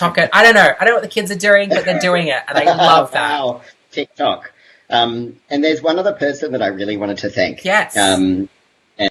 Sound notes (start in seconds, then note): 3.8 laughs